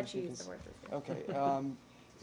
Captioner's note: laughter